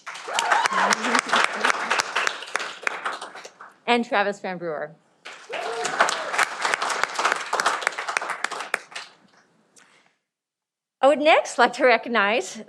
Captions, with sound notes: (cheering) and Travis Van Brewer. (cheering) I would next like to recognize